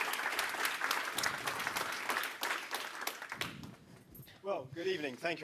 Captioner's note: audience claps